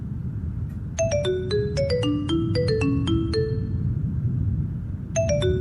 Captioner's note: phone rings